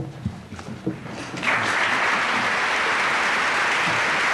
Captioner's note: applause